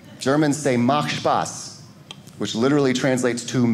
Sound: speaking German

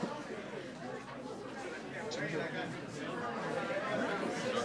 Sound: group chattering

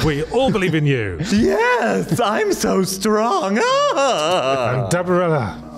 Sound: happiness sounds

